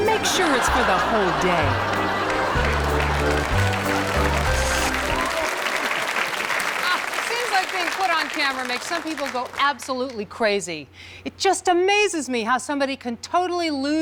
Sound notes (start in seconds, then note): 0.0 audience laughs; 3.9 audience applauds